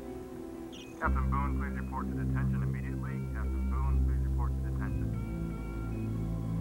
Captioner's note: over intercom